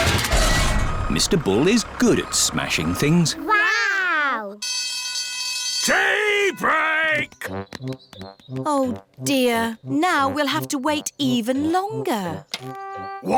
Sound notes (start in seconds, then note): 4.6 alarm ringing